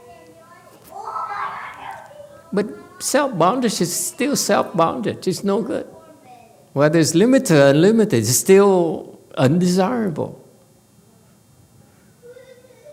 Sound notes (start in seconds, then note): none